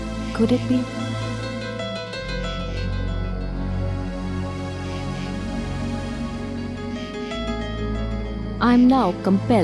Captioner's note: suspenseful music; crickets chirpping